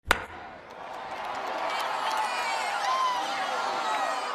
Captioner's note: fans cheering